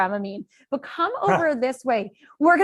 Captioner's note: laughter